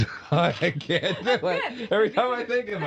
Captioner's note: laughing